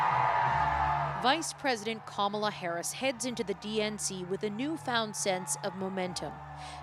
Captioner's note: cheers and Applause